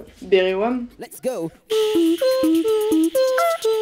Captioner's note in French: beatbox